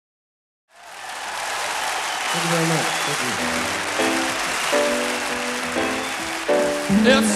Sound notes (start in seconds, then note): 0.7 audience cheering; 3.3 upbeat piano music